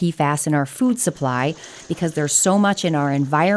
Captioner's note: rain trickling